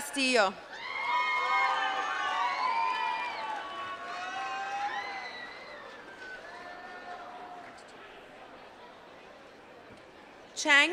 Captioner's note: applause